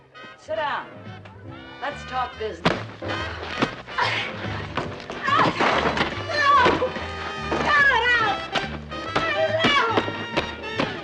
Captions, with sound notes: Sit down. Let's talk this... [ Gasping ] Stop! Cut it out! Cut it out!